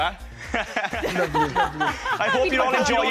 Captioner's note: laughter